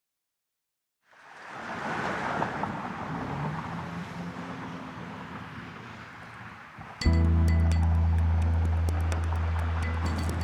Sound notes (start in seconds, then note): 1.3 cars rumbling; 7.0 dramatic music